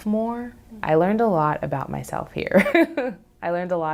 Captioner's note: laughs